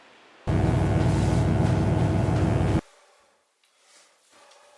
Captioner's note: electric buzzing